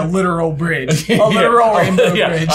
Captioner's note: laughs